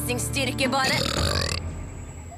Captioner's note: burps